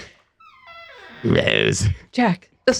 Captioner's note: croaking